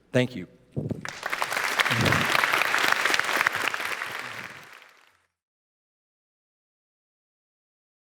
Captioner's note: applause